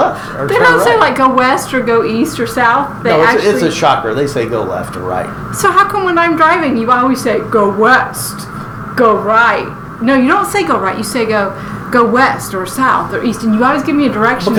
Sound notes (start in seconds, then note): 7.1 in deep voice